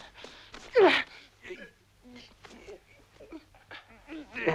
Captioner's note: both grunting